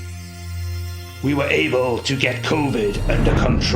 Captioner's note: winds whooshing